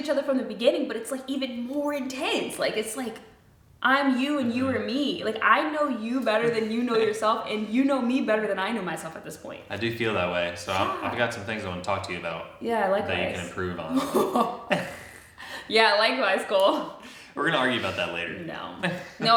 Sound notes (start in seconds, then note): 6.5 chuckles; 13.8 chuckles; 13.9 laughs; 18.9 chuckles